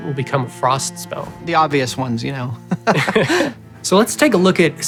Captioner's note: chuckles